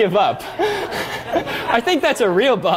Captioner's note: laughter